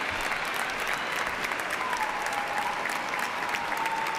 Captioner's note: cheers and applause